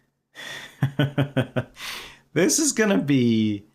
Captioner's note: laughter